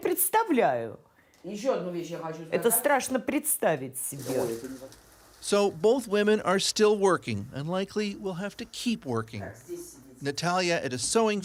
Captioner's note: speaking russian